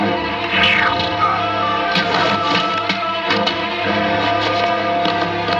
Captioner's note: Collins geme